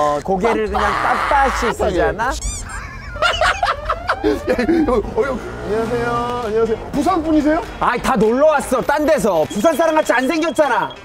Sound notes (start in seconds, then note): 2.2 haha